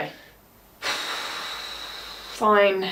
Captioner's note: sighing